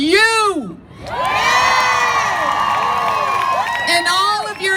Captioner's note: crowd cheers